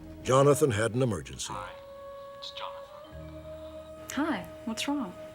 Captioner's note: on phone